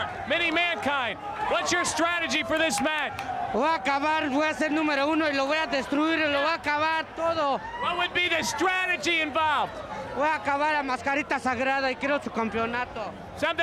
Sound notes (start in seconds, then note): 3.5 speaking in Spanish; 10.1 speaking in Spanish